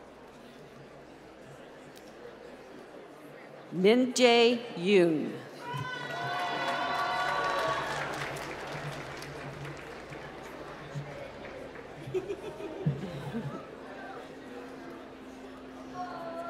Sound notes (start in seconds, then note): 5.8 applause